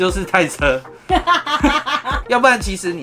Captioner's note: laughter